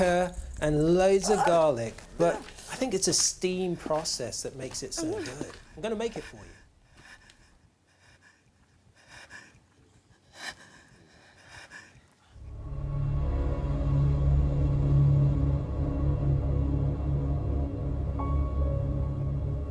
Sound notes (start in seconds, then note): 6.7 whimpering; 12.4 suspenseful music